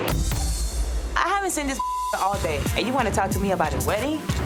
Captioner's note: beep